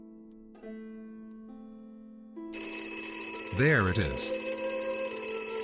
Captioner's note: phone rings